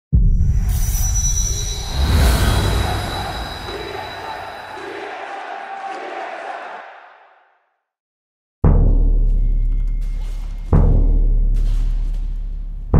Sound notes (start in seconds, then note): 1.6 orchestral music; 2.6 crowd